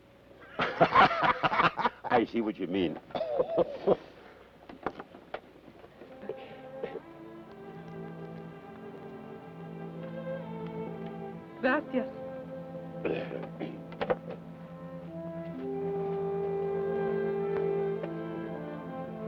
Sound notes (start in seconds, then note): 0.5 both laugh; 6.2 peaceful orchestral music; 13.0 Carney clears his throat